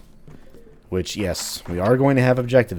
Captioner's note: journal opens/closes